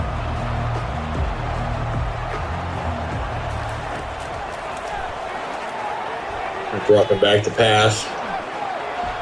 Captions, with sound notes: [Crowd Noises] Drop it back to pass.